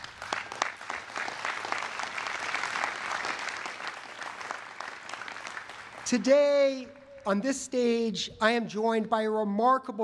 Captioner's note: applause